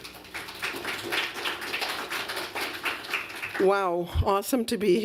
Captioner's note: applause